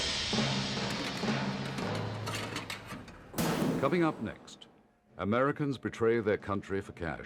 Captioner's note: thrilling music; containers rattle